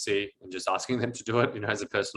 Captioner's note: chuckles